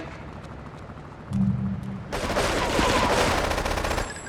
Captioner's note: screaming